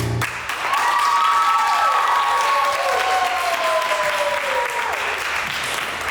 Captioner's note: crew applauding and cheering